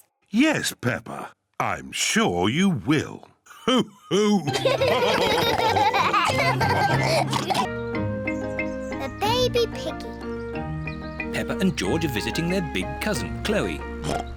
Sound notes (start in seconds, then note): 3.6 all laugh